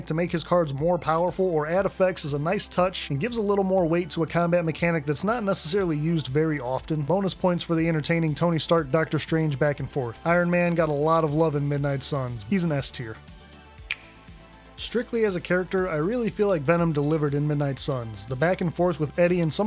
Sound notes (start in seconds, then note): 13.8 click